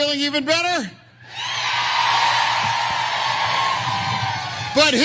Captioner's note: applause